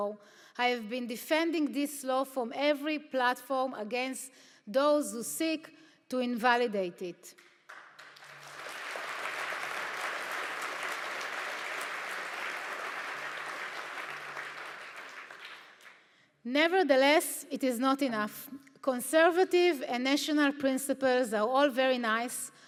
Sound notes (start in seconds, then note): 7.6 audience applauds